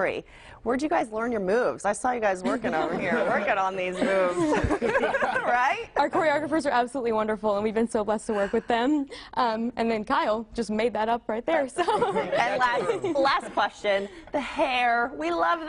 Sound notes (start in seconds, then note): 9.6 laughter